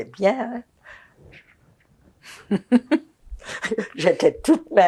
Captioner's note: laughing